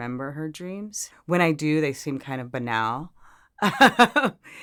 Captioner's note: laughs